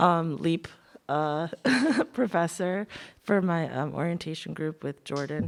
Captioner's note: laughs